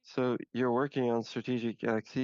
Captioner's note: speaking French